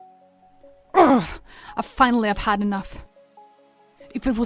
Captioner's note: grunts